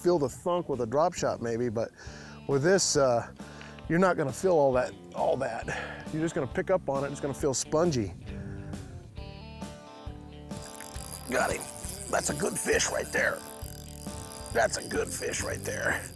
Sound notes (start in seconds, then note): 10.4 reel ratcheting